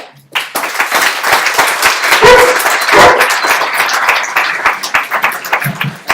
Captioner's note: applause and guide dogs barking